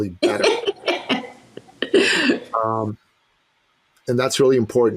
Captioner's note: laughing